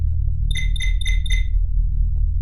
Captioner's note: intercom call